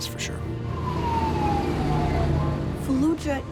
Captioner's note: siren blaring